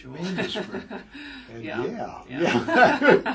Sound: laugh

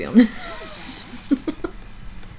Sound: wheezes

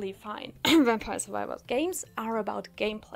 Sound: cough

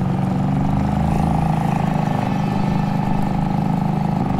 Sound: boat motor hums

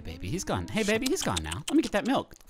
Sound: tongue clicking

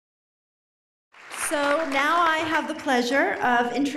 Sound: applause

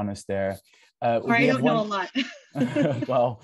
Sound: laughs

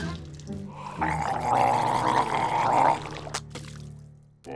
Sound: gargling

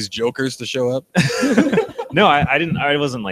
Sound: all laugh

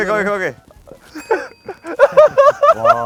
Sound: ding!

